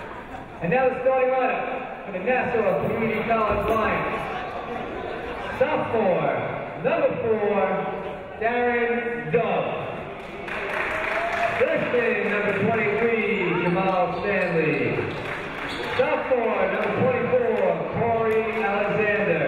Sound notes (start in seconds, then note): 10.1 crowd applauds